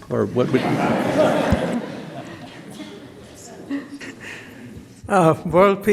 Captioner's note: laughter